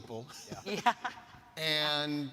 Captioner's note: laughing